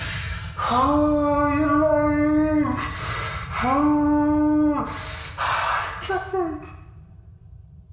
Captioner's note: crying